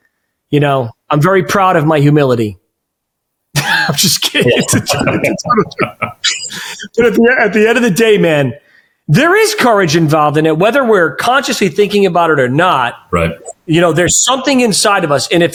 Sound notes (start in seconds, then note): 5.0 laughing